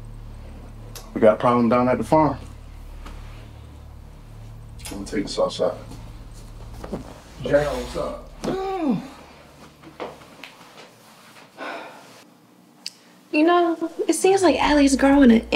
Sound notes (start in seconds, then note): 8.2 Heather groans; 10.4 Heather sighs